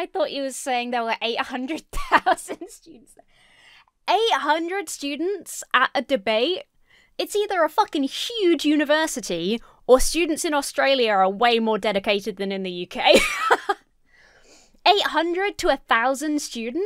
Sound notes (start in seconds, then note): 1.8 laughs; 13.0 laughs